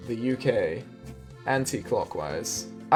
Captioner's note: British accent